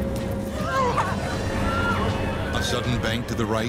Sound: passengers gasping

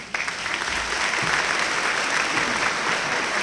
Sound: applause

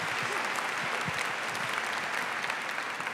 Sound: applause

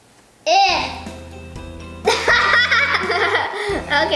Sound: laughs

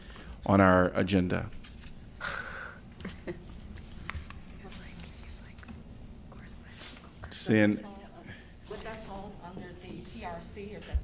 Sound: laughter

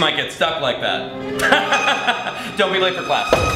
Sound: laughing

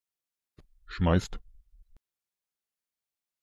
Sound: fast Pronunciation

